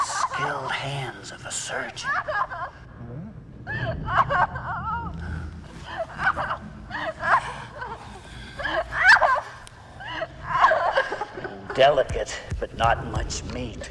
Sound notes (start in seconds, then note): 3.6 Liz sobbing and screaming